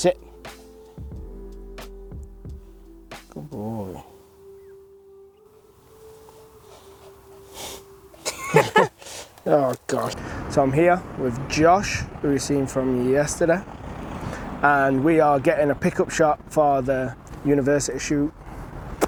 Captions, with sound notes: Sit. Good boy. (sniffing) (laughing) Oh gosh. So I'm here with Josh, who we've seen from yesterday. And we are getting a pickup shot for the university shoot.